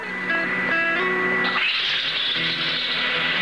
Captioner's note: engine Starts